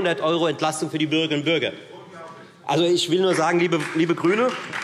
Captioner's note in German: Beifall Freie Demokraten - Zuruf Freie Demokraten: Unglaublich!